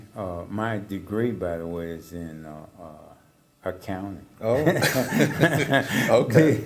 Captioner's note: laugh